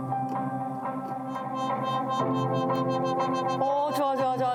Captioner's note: sound FX